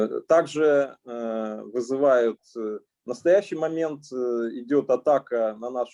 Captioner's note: speaking Russian language